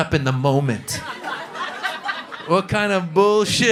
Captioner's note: laughter